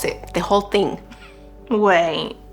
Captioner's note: scoffs